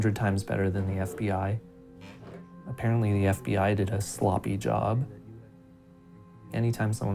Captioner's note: none